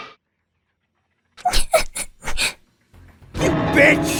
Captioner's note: sniff